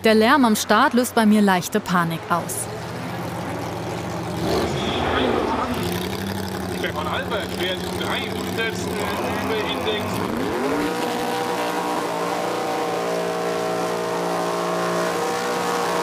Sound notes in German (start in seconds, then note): 2.6 Motorenblubbern; 10.3 Laute Motorenheulen